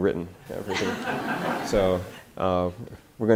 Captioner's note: audience laughter